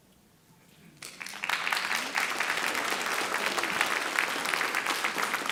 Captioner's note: audience applauding